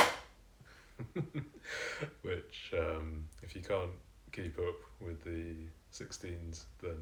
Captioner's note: giggling